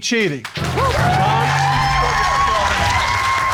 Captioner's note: cheers and applause